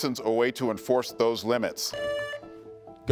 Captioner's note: buzzer beeps